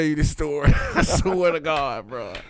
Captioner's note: laughing